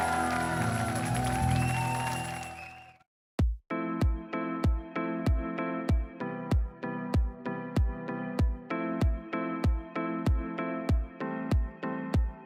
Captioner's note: cheering and Applause